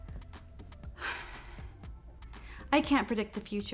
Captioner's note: Lyla sighs